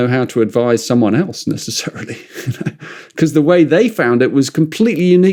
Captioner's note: laughs